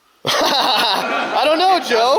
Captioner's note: laughing